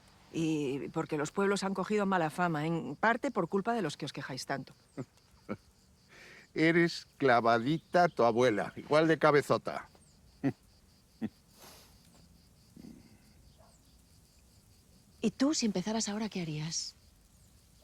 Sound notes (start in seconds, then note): 4.9 chuckles; 11.2 chuckles